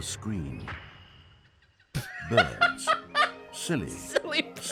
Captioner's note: birds chirping, laughing; laughing